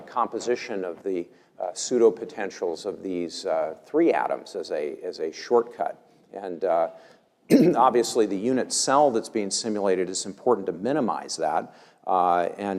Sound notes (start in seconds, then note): 7.5 cough